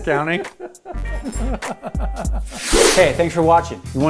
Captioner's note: laughs